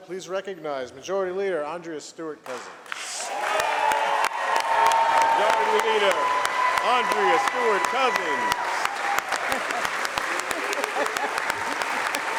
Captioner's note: applause